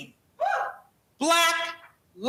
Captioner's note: crowd member cheering